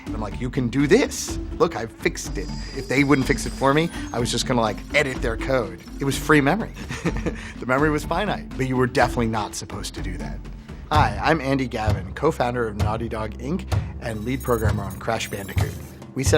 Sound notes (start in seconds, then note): 6.8 laughing